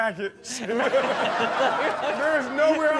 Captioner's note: audience laughs